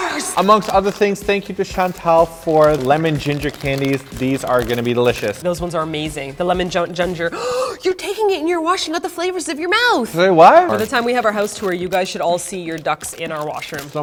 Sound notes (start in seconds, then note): 7.2 gasps